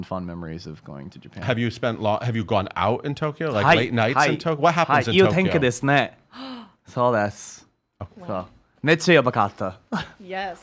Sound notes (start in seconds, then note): 5.3 speaks in Japanese; 6.3 gasps; 7.1 speaks in Japanese